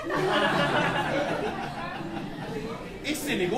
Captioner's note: laughter